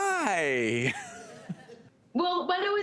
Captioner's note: laughter